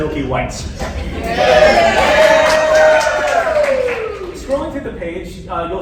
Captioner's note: applause, cheering